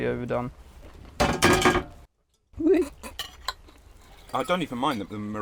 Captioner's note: sound of camera hitting pan handle